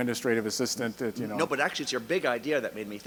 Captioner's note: voiceover